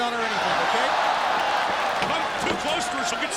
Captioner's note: crowd cheering